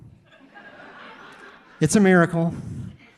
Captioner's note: audience laughing